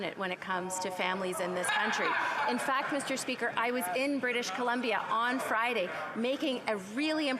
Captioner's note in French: voix de l'interprète